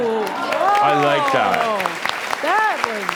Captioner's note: audience applause